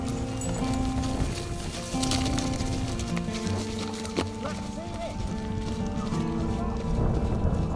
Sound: sound of footsteps

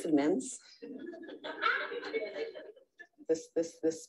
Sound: audience laughs

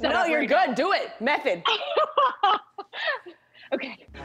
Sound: laughs

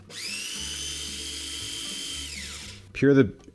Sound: food processor whirring

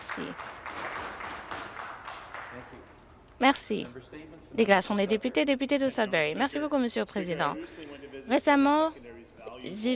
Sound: applause

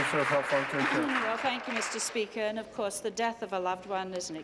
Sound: applause

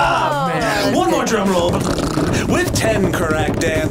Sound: trills

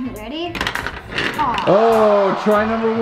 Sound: ball clacks; disappointed crowd

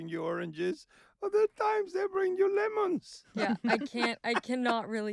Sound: laughing

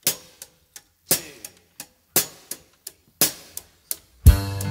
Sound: drumsticks clicking

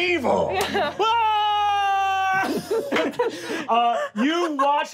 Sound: screaming

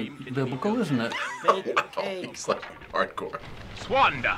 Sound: chuckling

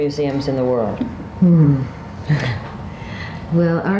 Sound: chuckles

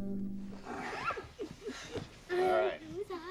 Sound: kids make noises

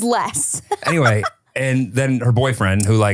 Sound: laughing

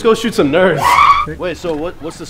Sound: screaming

